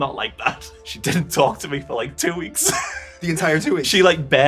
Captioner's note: chuckles